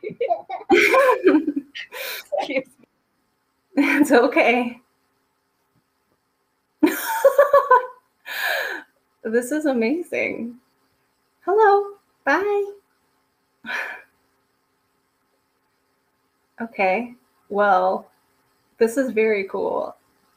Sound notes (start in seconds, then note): 6.8 laughing